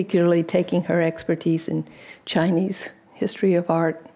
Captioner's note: none